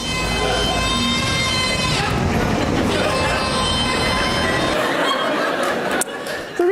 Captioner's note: screaming; audience laughs